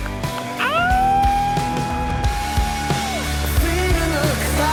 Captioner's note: howling